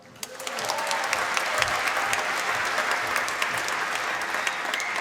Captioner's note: applause